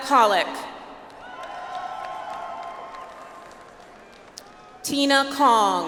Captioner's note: audience applauds